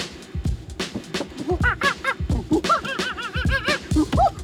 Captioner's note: imitating monkey chatter